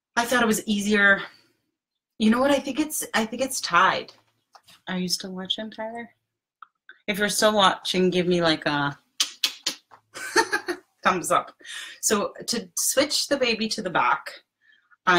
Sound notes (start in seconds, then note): 9.2 mouth clicks